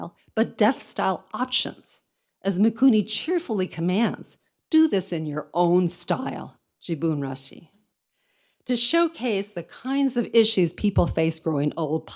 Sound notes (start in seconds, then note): 6.9 speaks in foreign language